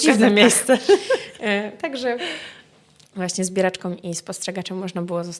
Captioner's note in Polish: śmiech